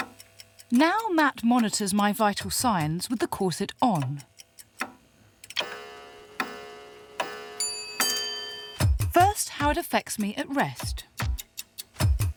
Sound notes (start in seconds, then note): 4.9 bells chiming; 12.1 dramatic music